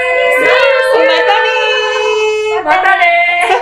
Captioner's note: saying see you soon in Japanese